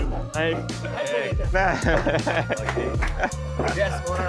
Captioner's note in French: rires